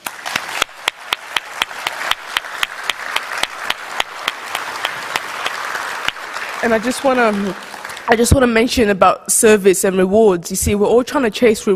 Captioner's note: applause